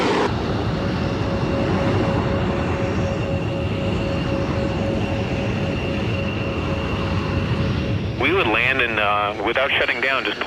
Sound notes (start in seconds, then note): 4.9 landing plane